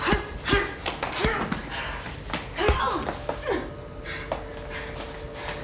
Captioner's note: fighters grunting; fists thudding